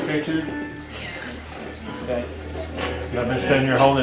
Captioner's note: radio channel changing